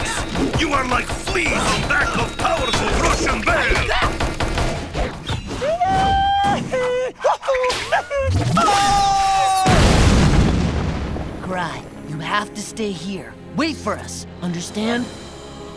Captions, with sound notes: You are like fleas on back of powerful Russian bear! [shooting] [screaming] Karai, you have to stay here. Wait for us. Understand?